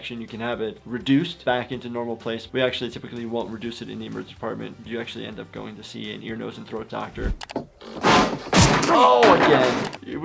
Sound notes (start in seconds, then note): 7.2 board smacks